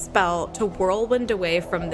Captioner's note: rushing wind